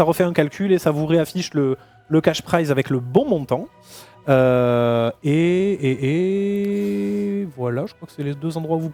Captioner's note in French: grognement